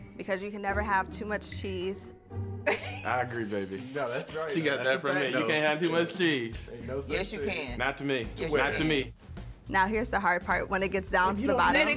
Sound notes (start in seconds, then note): 4.3 laughs